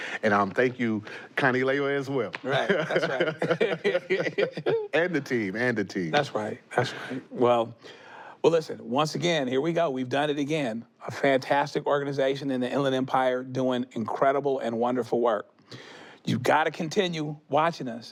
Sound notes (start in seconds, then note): 2.4 both laughing